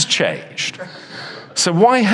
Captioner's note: audience chuckles